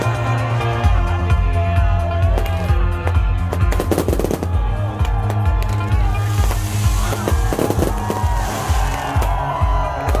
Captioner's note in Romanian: Aplauze